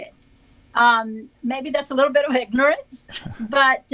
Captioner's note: chuckles